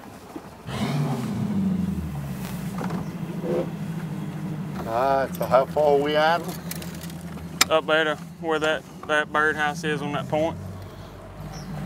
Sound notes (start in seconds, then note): 0.6 engine starting